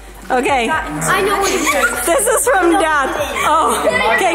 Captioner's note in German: kichert